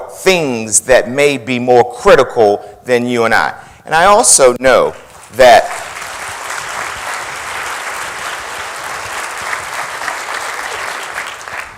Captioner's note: applause